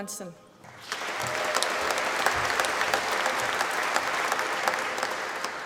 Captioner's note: applause